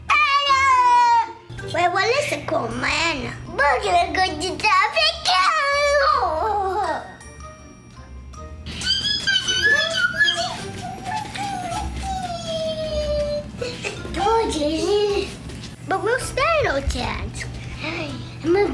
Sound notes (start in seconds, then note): 6.6 happy screaming; 13.2 happy music